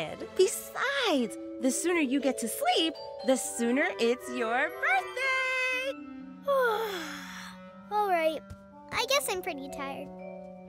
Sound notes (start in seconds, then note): 6.5 yawning